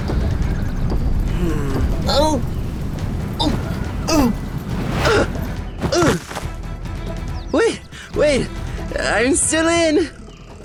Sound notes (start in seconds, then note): 2.0 ZAID gags; 2.0 NATALIA groans; 4.1 NATALIA groaning; 4.1 NATALIA grunting